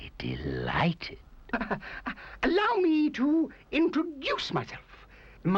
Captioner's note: chuckling